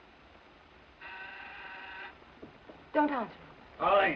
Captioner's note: doorbell buzzes